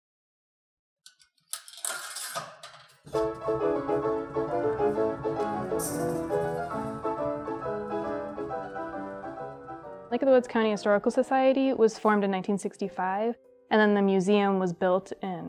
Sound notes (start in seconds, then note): 1.5 coin clatter; 3.1 old-fashioned calliope music